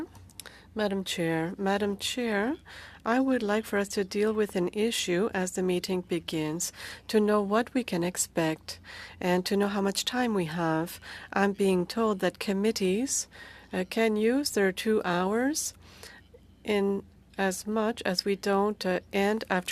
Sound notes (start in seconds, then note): 6.6 speaking French